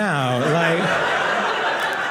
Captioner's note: audience laughing